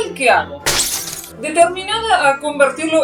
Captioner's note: crash